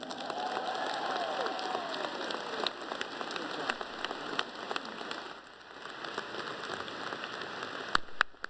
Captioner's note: cheers and applause